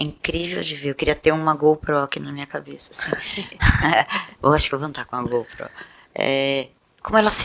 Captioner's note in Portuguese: risos